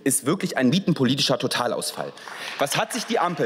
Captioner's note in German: Beifall